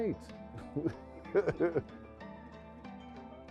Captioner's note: laughs